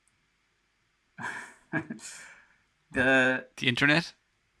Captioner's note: laughs